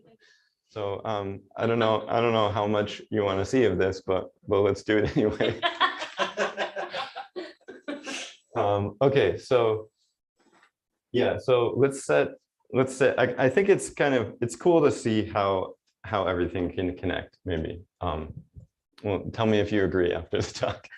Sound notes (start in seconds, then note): 5.4 audience laughter